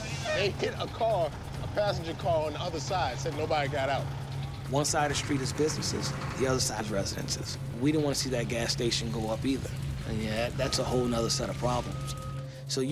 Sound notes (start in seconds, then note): none